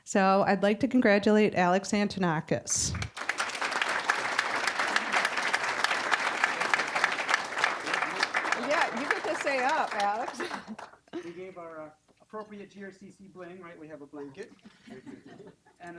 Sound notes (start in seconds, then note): 3.0 applause